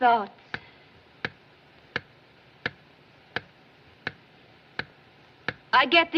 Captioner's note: ticking Continues